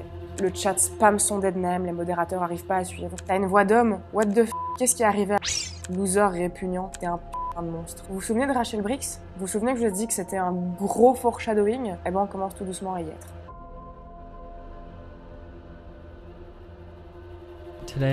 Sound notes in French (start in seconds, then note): 4.5 bip